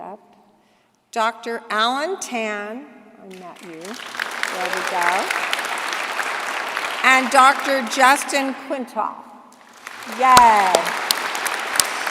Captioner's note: applause